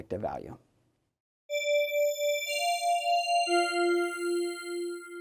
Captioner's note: high pitched chimes